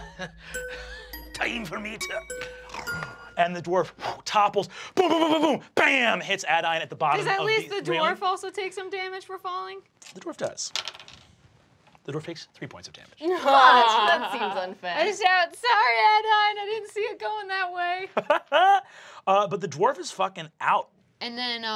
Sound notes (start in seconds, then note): 3.1 snores; 10.6 die clacking; 13.3 laughing; 18.1 laughs